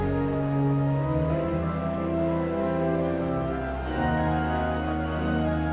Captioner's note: pensive organ music continues; audience chattering continues